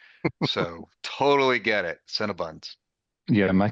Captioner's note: chuckling